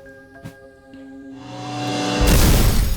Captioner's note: mitosis sound